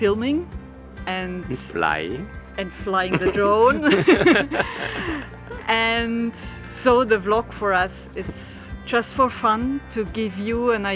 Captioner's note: chuckle